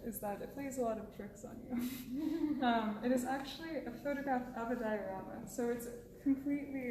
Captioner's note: laughs